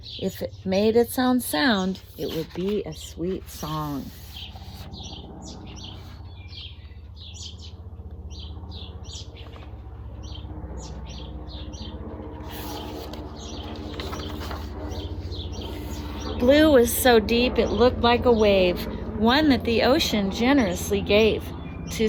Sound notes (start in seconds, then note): 5.9 birds chirping; 9.9 plane engine roars